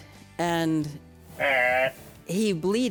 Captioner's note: Blent bleating